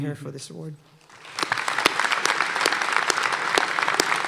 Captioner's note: applause